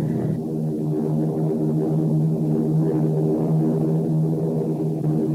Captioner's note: plane engines revving